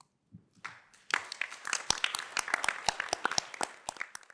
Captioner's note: applause